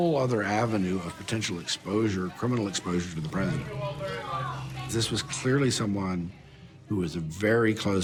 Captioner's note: reporters clamoring